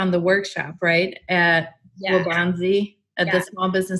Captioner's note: murmurs